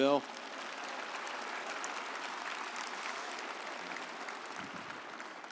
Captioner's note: audience applauding